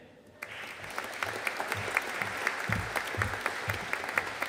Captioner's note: audience applauding